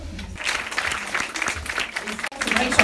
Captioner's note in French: Applaudissements